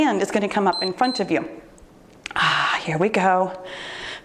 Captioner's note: timer beeps